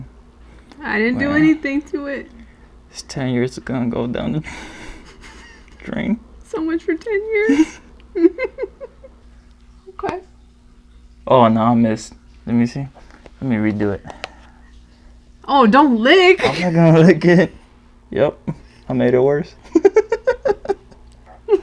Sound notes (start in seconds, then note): 5.4 laughs; 8.0 chuckles; 19.6 giggles